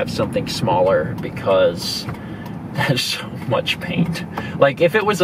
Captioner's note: laughs